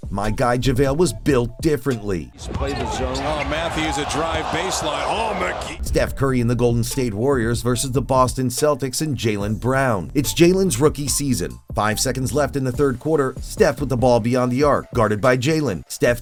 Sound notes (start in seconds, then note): 2.4 game audio